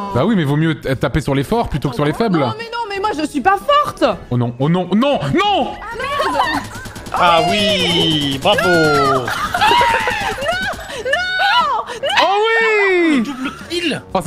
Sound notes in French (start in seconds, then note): 5.8 bruit de tourelle; 9.0 rires